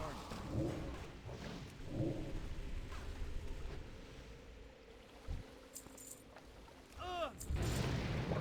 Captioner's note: growling